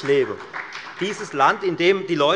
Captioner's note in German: Beifall bei der FDP